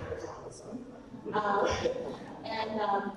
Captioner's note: audience laughs